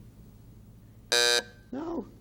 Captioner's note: buzzer sounding off